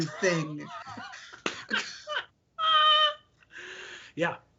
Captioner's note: laughing